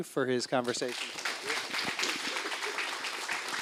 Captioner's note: applause